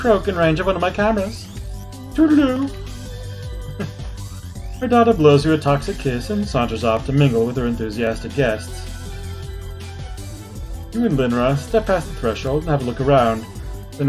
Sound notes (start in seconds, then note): 3.6 chuckles